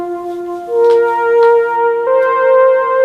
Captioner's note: none